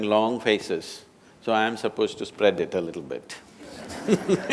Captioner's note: laughter